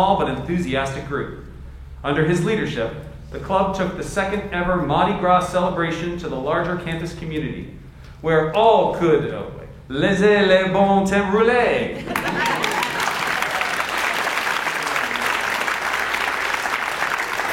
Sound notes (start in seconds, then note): 9.4 speaks French; 12.0 audience laughs and applauds